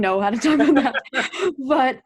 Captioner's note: both laugh